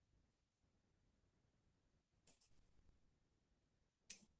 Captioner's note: long pause